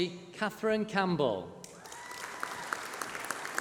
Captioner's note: applause